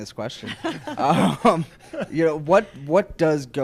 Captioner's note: laughs